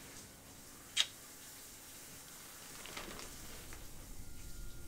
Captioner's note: kiss smacking